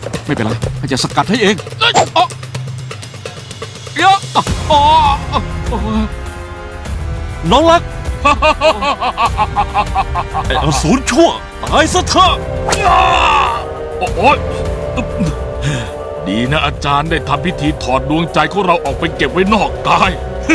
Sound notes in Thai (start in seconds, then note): 8.2 หัวเราะ